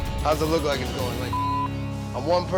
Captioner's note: beep